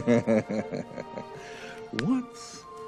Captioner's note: laughing